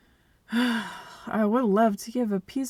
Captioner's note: angry dramatic sigh